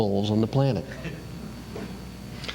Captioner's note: laughter